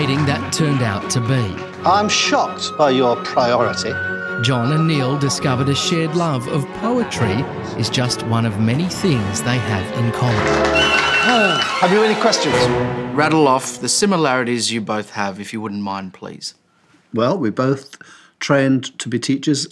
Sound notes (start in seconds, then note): 9.9 audience applauding